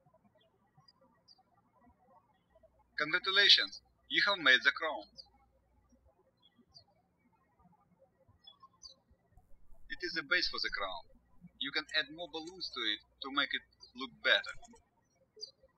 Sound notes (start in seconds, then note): 7.1 birds chirping